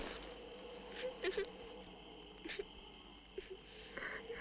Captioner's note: Lucy weeping softly